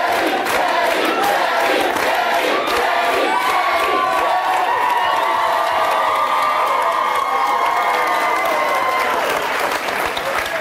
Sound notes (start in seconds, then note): 4.9 audience applauds